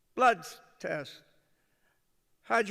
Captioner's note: none